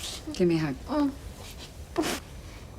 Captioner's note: snorts